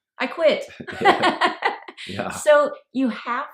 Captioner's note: laughing